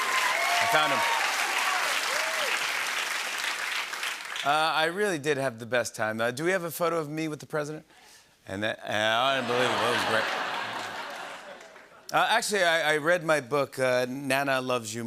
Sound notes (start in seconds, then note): 0.0 applause